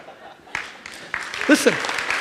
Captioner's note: audience applauds